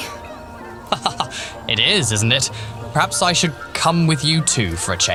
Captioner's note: he laughs